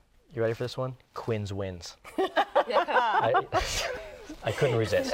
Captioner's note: laughter